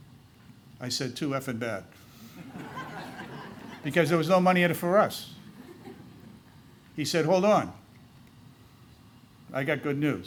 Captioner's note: laughter